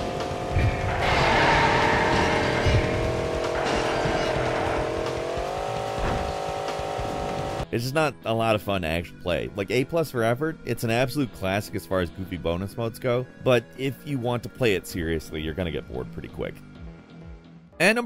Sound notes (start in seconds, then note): 0.0 tires screeching; 0.3 upbeat percussive music; 2.8 car engine revving